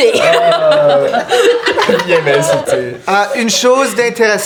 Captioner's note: laughter